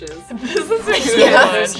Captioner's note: laughing